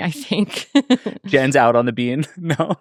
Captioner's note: laughing